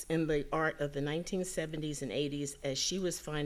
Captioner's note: none